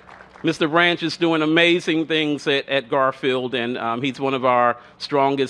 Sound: cheers and applause

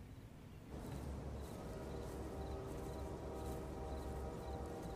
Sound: train horn blowing in distance

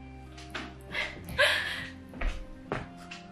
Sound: laughing

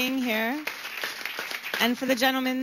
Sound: applause

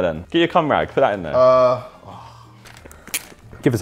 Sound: JJ groaning

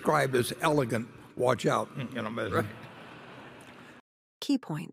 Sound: laughter

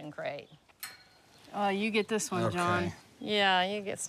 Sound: metal clinking

